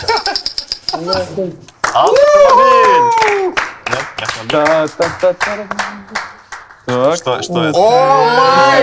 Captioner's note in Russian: аплодисменты